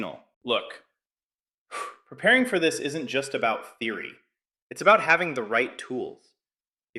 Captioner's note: exhales sharply